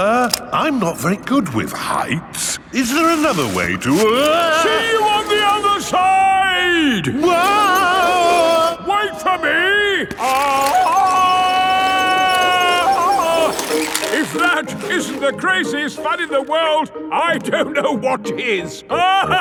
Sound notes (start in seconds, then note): 0.0 all yelling; 8.0 yelling; 11.4 yelling